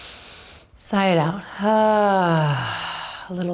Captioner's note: sighs